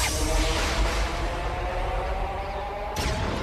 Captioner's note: swirling, thunder